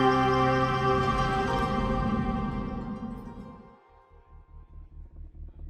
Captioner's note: air whooshing; tense music